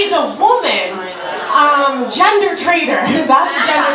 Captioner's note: audience groaning